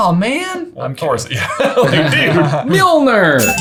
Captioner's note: laughing